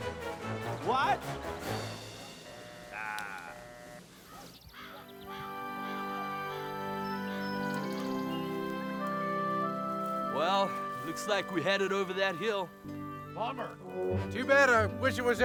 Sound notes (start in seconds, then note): 3.9 birds squawking; 3.9 lighthearted music